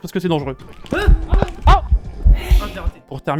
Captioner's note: steps and fantomatic hiss